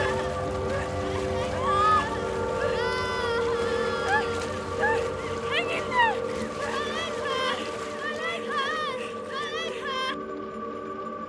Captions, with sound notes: My leg hurts! My leg hurts! (crying) - Hang in there. - My leg hurts, my leg hurts! My leg hurts!